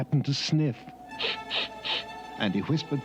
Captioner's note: sniffing